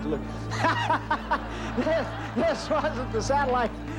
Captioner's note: laughing